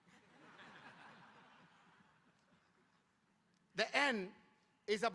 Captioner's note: audience laughing